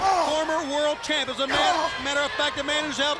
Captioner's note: crowd cheering